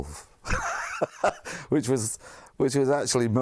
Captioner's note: laugh